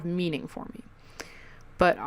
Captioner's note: lip smack